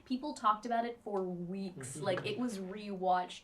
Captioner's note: chuckles